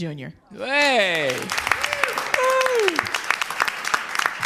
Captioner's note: crowd applauds